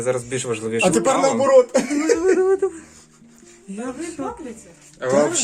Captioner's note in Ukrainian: сміх